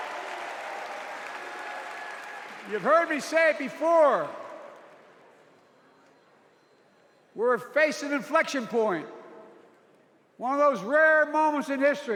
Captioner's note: cheers and applause